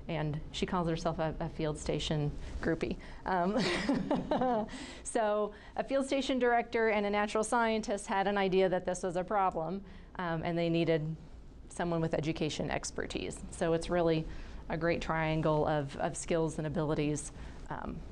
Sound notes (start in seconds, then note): 3.6 laughing